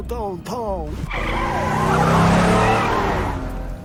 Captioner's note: tires screech